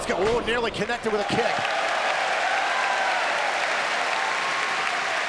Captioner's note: crowd cheers and claps